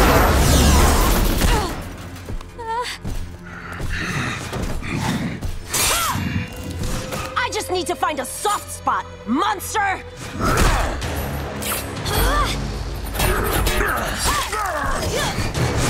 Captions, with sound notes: [groaning] [grunting] I just need to find a soft spot, monster! [grunting] [grunting]